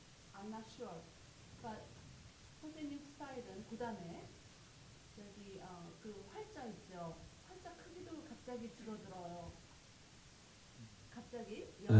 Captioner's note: speaking Korean